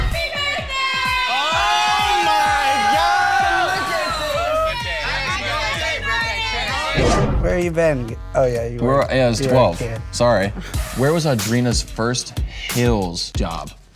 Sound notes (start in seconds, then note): 0.2 crowd; 4.9 crowd cheering; 10.8 upbeat pop music